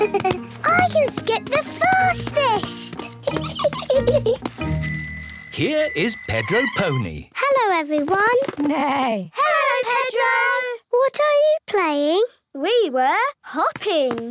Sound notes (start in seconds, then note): 4.6 bike bell; 8.5 neigh